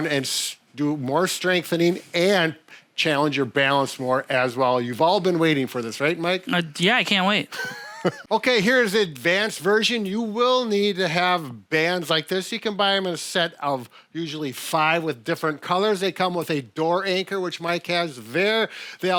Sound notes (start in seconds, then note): 7.5 laughs